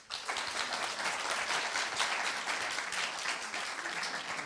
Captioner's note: applause